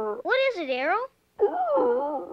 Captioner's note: howling